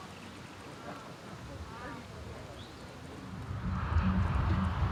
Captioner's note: wind rustling